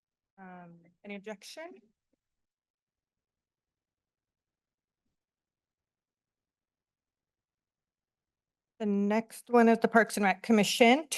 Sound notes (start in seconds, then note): 2.0 silence